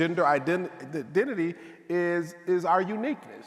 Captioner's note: none